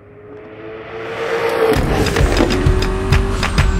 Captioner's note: car revving loudly